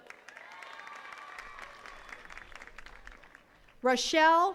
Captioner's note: attendees cheering and clapping